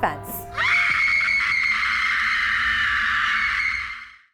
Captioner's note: woman screaming